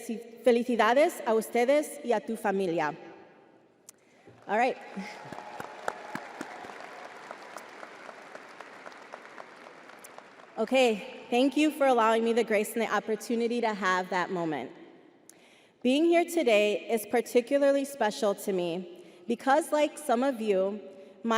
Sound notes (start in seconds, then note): 4.7 crowd applauding